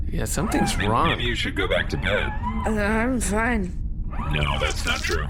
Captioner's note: still slurring